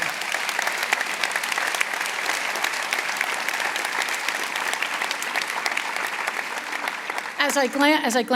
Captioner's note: applause